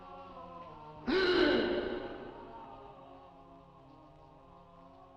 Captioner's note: Dick gasping